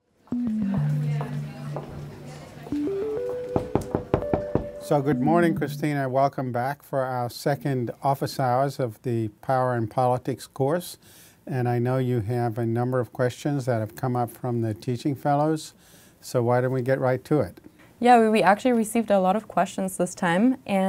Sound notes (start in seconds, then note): 0.3 upbeat music; 3.5 knocking